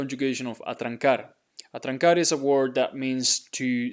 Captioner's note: speaking in Spanish